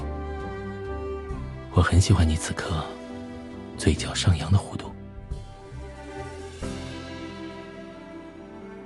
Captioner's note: whispers softly